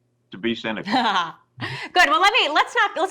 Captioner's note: laughs